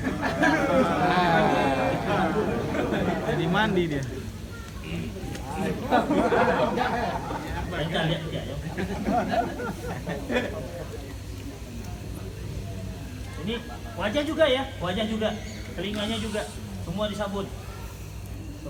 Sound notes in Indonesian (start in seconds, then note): 0.2 Jama'ah tertawa; 4.8 Jama'ah masih tertawa